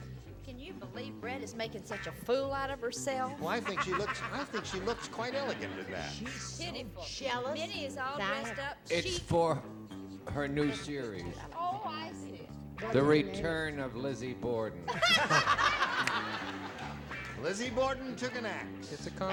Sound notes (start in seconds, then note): 14.8 laughter